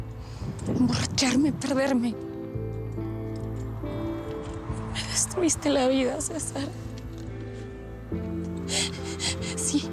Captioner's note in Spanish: sollozos